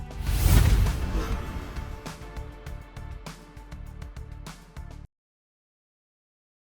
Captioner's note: dramatic music; air whooshes